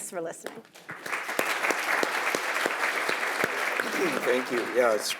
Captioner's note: audience applauding